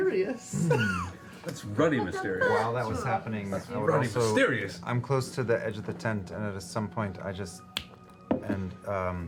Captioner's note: snap